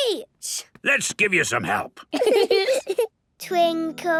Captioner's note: giggling